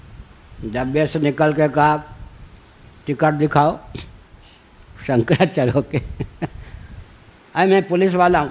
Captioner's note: laughs